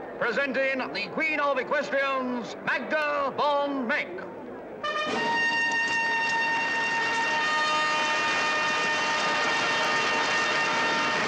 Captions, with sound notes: presenting the queen of equestrians, Magda von Meck. (triumphant fanfare music) (audience applauds)